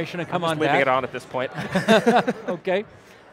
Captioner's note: both laughing